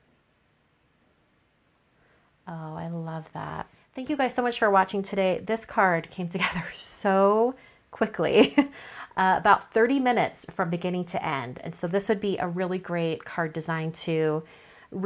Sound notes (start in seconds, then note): 8.4 chuckles